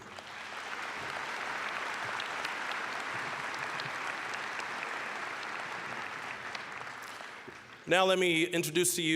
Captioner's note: applause